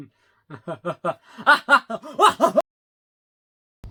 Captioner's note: Fake Nikk laughing; Fake Nikk maniacally laughing; Fake Nikk really laughing